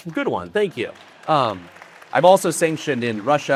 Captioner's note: audience applauding